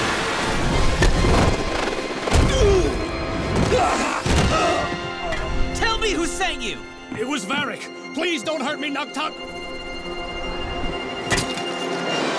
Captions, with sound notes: [grunting] Tell me who sent you! It was Varrick, please don't hurt me, I'll talk. [earth disc falling]